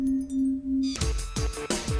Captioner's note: dinging